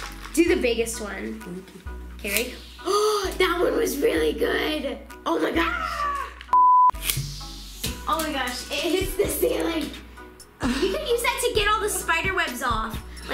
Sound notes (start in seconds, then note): 2.8 gasping; 6.5 beep